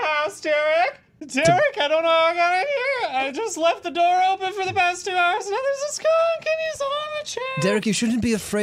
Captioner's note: strained